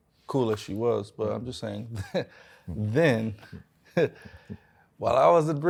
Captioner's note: chuckles